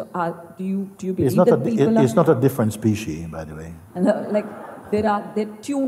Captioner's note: Lachen